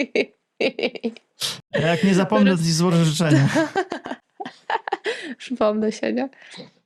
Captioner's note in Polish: śmiech